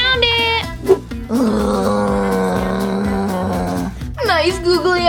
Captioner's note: Frankie grunts